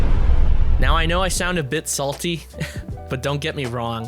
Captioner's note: laughs